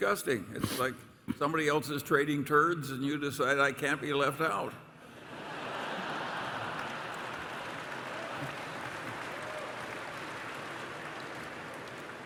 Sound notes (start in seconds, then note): 5.2 laughter and applause